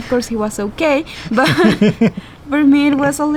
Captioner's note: laughing